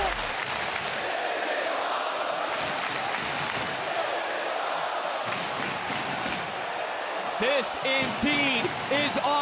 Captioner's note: crowd cheering